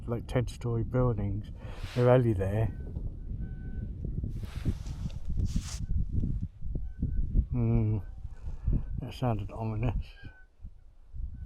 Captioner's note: tree creaking